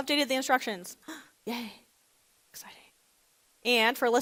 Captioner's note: gasps